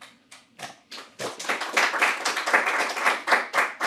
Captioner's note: audience clapping